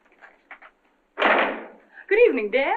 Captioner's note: door slams